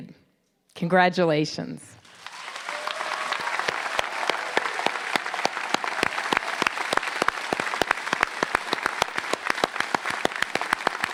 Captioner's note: applause